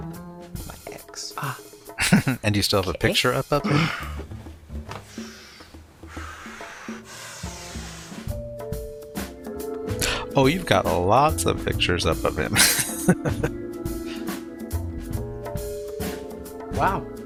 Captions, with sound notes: [Chuckling] And you still have a picture up of him? Oh, you've got lots of pictures up of him. [Laughing]